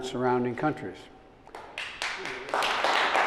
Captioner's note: applause